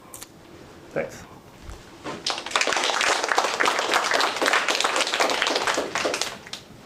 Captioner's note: applause